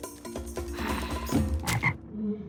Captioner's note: sigh; ribbit